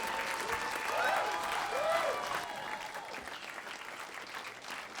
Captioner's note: audience applauds